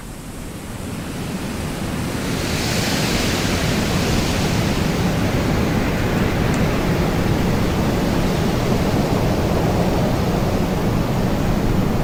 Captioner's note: clouds colliding